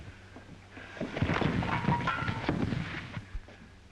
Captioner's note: thump